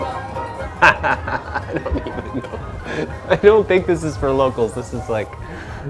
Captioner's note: laughter